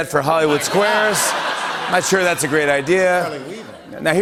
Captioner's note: laughter